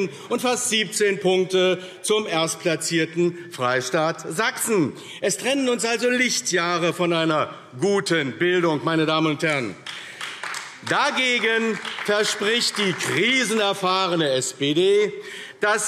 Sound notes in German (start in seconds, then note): 9.8 Beifall AfD